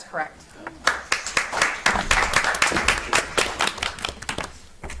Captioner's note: audience applauds